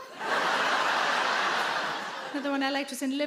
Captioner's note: audience laugh